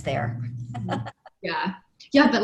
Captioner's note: laughs